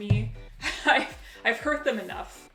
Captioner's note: laughs